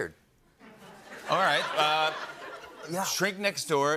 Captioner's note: laughter